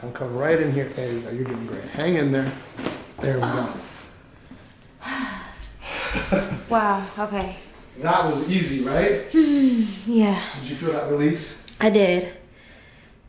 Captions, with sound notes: - I'll come right in here. There you go you're doing great. Hang in there. There we go. (sighs) (laughing) - Wow, Okay. - That was easy, right? (sighs) - Yeah. - Did you feel that release? - I did.